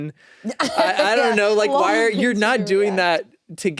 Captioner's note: laughs